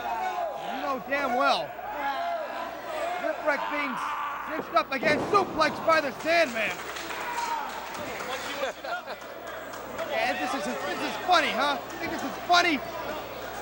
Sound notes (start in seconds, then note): 4.4 crowd chattering